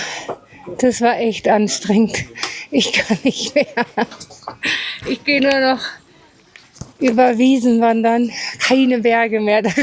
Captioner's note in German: gelächter